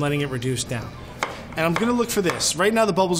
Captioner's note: chopping